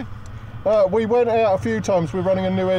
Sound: engines roaring

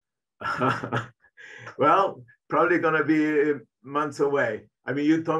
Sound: chuckling

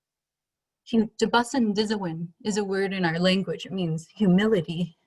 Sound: speaking in foreign language

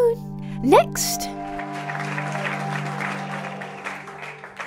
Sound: applause slowly dies down

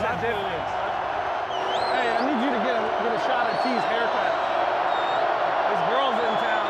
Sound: crowd cheering; whistling; indistinct chatter and laughter

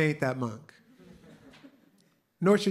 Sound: laughter

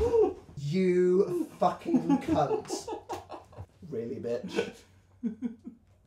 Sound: still laughing

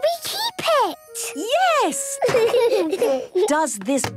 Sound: laughter

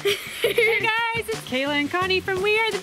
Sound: giggles

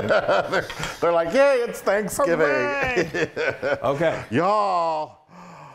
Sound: laugh

